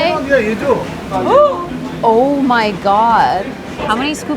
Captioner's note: gasps